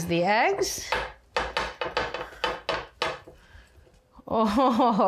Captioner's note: pan tapping